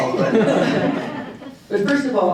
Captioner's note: audience chuckling